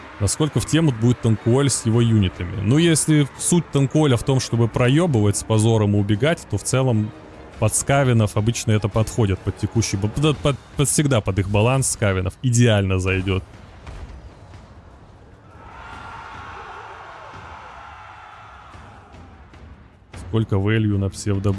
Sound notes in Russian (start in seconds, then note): 18.3 крик